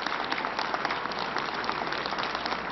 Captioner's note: applause